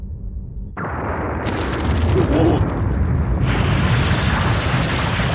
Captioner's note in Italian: esplosione in lontananza